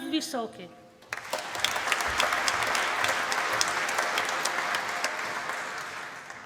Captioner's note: applause